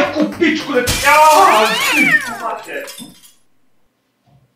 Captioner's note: shattering the glass, the cat screaming